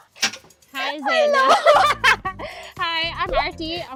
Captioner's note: laughs